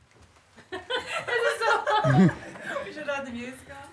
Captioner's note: woman chuckling